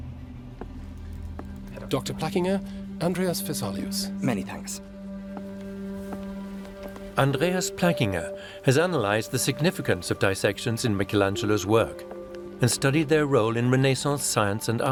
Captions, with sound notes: -[suspenseful music continues] -[short exchange in German] Andreas Plackinger has analysed the significance of cadaver dissections in Michelangelo's work and studied their role in Renaissance science and art.